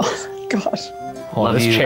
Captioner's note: scoffs